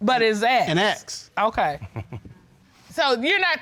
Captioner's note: chuckling